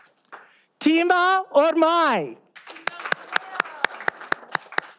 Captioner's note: all applauding